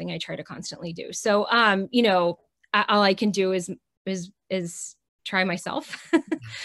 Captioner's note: chuckles